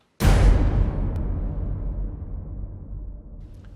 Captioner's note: loud bang